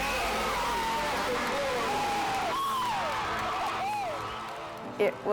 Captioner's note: crowd cheers